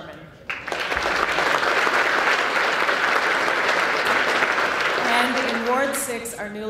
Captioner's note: applause